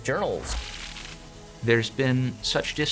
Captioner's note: transition whooshing